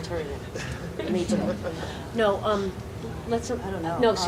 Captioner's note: audience laughing